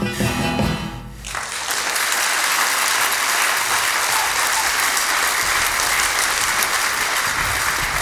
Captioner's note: music out. Applause